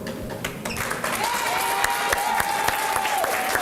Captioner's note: applause